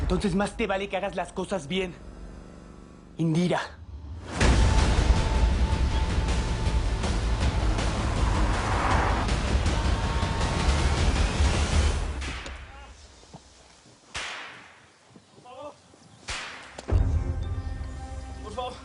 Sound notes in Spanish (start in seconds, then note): 12.5 Quejidos; 12.5 Ruido de latigazos